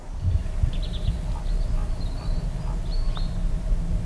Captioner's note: birds chirping